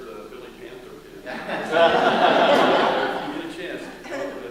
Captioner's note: laughter